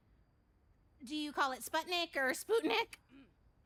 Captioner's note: voice cracks